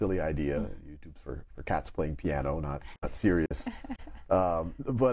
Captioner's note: chuckles